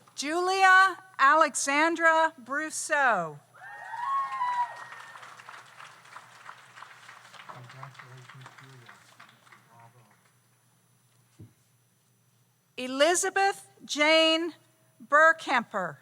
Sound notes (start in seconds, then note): 3.6 audience cheers; 3.9 audience applauds